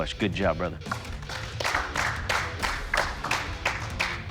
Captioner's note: clapping